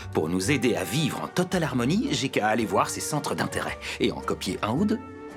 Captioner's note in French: none